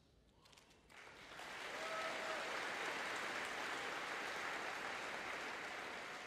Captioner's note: audience cheering and applauding